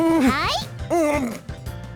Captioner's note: gulp